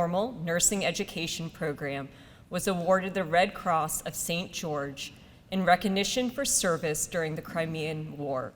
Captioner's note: none